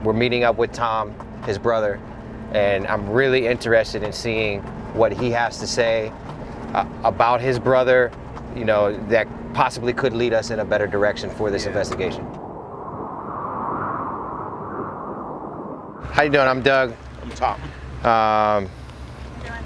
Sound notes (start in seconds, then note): 11.0 wind howling